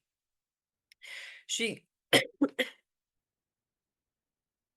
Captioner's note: coughs